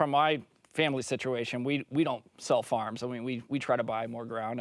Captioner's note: French